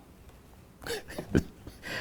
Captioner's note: chuckles